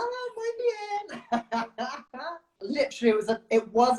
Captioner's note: laughs